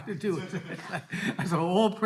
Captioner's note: all laughing